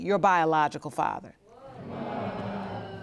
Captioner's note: audience moaning